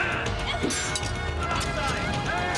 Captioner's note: sword unsheathed; metal clanging